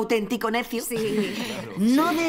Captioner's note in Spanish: risas